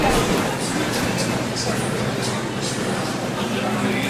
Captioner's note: muffled radio announcer